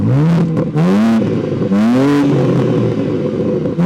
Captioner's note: car engine roaring